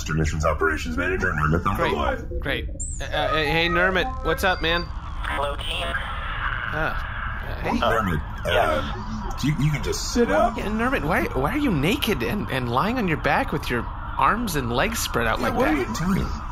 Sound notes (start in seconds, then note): 7.9 somberly